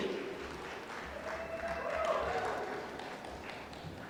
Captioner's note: applause